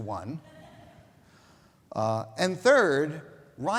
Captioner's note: audience laughing